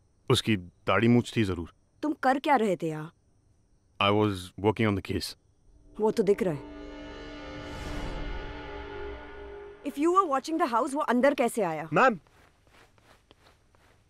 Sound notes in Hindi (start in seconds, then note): none